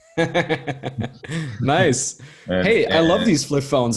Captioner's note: chuckling